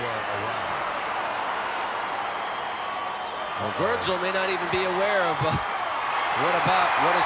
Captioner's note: applause